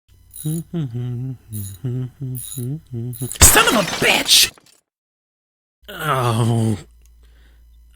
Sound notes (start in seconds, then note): 0.3 humming Tune; 3.2 explosion; 6.0 groan